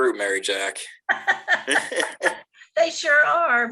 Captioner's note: laughing